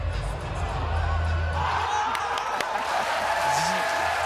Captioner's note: cheers and applause